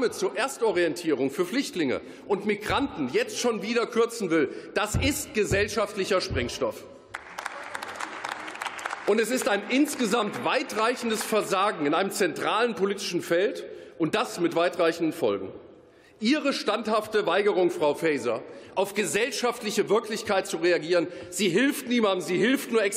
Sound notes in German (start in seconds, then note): 7.1 Beifall